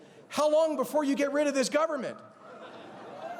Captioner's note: laughter